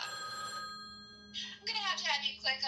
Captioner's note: phone rings